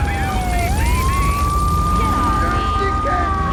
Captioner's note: car engine roaring; police sirens blaring; police radio chatter; police sirens blaring